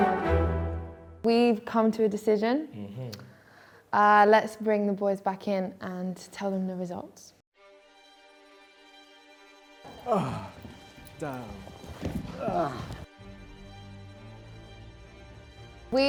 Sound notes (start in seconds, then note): 9.9 man grunts